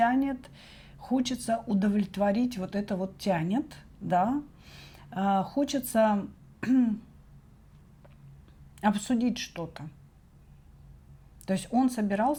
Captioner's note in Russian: откашливается